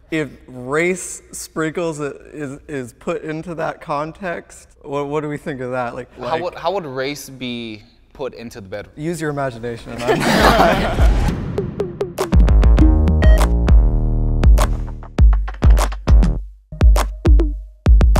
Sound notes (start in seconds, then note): 9.9 group laughing; 10.3 upbeat music